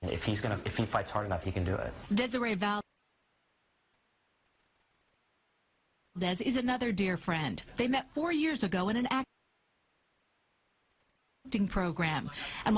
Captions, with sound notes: If he fights hard enough, he can do it. - [Voiceover] Desiree Valdez is another dear friend. They met four years ago in an acting program.